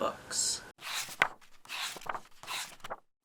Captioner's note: pages turning